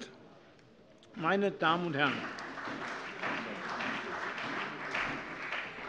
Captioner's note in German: Beifall bei der CDU und dem BÜNDNIS 90/DIE GRÜNEN